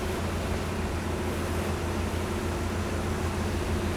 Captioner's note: boat engine whirs